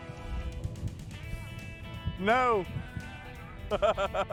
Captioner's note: laughing